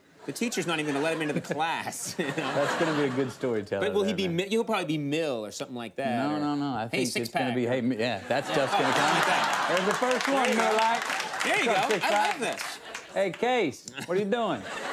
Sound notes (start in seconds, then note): 2.1 studio audience laughs; 10.6 studio audience claps; 13.9 studio audience laughs